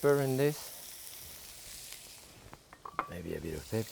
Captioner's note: food sizzling